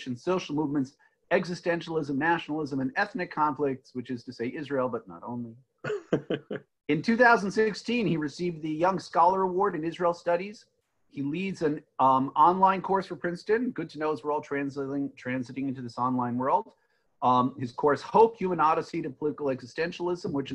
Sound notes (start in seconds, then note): 5.8 laughing; 5.8 laughs